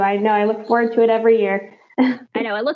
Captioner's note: chuckles